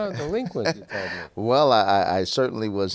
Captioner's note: laughs